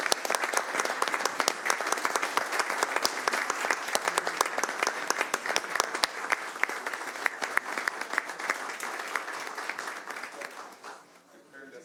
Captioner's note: applause